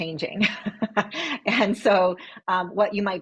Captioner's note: laughs